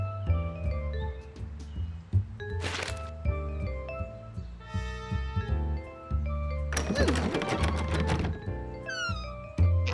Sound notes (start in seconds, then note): 6.7 door rattling